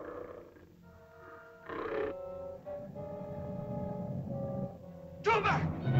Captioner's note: lizard growls; ominous music; lizard grumbles